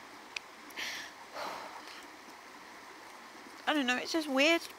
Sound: deep breath

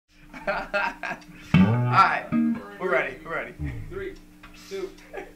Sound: laughing

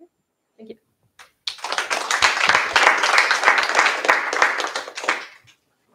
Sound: applause

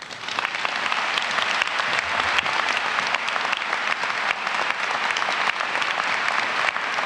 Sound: applause

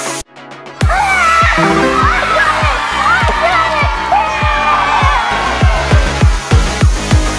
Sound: kids cheering in excitement

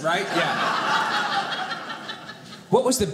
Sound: audience laughing

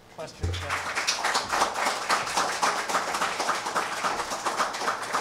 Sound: applause

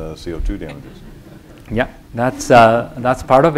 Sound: laughter

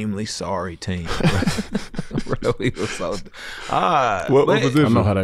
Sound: laughs

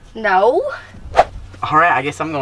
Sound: air whooshing

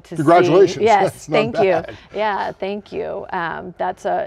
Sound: laughing

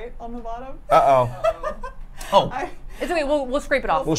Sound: laughs

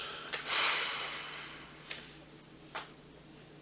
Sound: Jess sighs

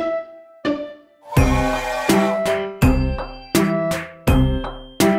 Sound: train whistle blowing

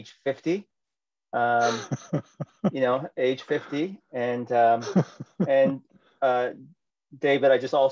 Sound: laughter

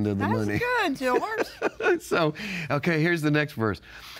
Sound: laughs

